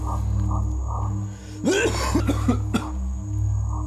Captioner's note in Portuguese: NOAH tosse